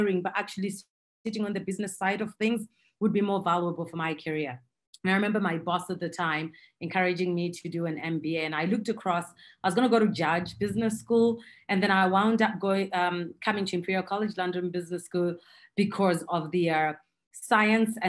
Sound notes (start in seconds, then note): none